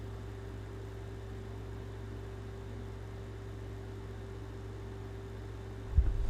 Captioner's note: air conditioner humming continues